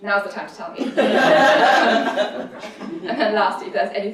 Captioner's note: laughter